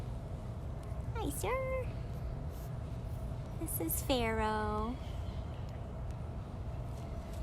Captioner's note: rustling